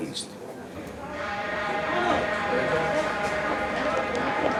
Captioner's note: seismic alert